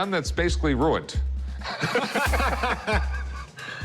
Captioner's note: laughter